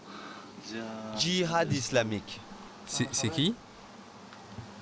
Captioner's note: French spoken audio